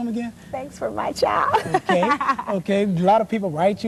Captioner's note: laugh